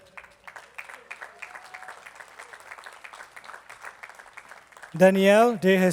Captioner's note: attendees clapping